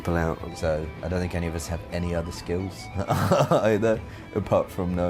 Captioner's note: laughs